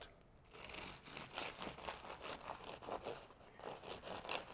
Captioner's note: knife slicing